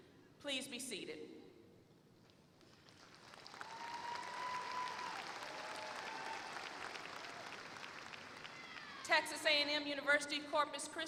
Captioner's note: applause